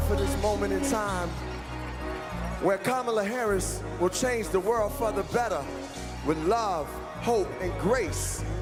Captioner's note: applause